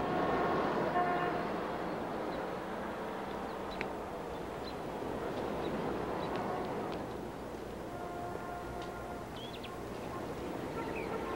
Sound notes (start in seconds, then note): 0.1 traffic whooshing; 5.1 birds chirping